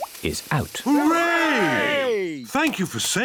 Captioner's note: cheering